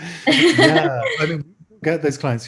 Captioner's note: both laugh